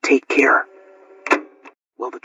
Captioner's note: cassette Tape Ends